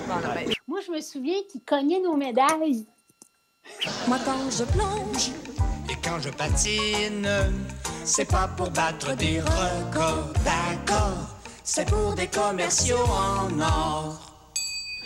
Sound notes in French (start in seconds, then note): 7.4 en choeur